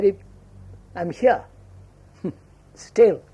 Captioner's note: laughs